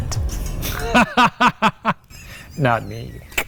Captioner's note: chuckles